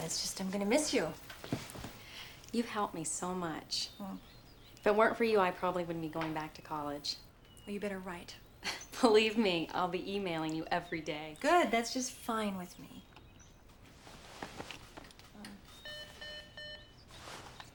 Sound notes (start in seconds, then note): 8.6 chuckles; 15.6 intercom beeping